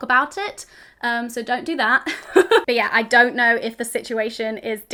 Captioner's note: laughs